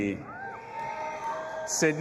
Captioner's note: audience applauding and cheering